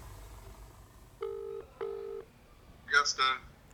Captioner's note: phone ringing